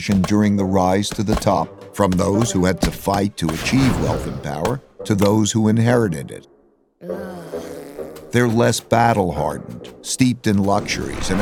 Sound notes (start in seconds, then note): 7.0 boy blows raspberry; 7.0 boy groans